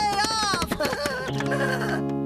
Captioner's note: laughing